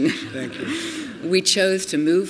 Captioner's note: laughter